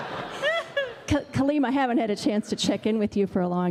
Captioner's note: laughter